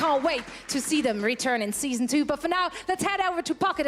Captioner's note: cheers and applause